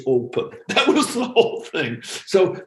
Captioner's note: laughs